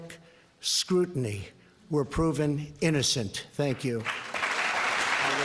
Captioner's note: applause